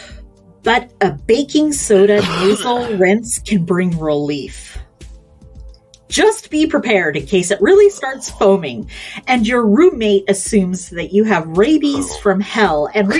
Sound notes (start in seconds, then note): 4.9 coughs